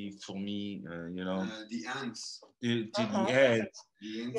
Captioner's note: male voice off camera